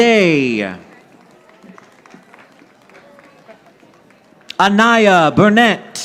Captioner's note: audience applauding